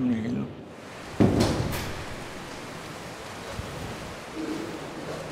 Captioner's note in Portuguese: Porta abrindo